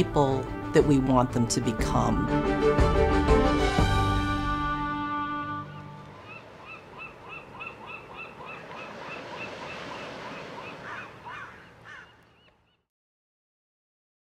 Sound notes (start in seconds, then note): 5.6 seagulls